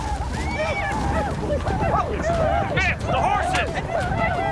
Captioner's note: horses neigh, blackfeet yell; gunshots